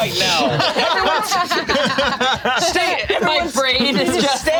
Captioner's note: group laughs